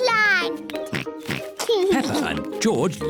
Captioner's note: oinks